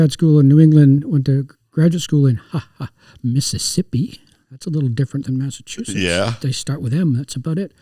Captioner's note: ha ha